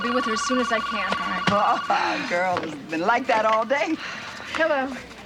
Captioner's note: chuckles